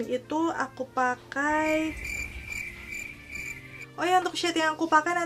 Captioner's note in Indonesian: krik..krik..krik